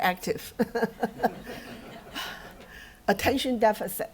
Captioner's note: laughter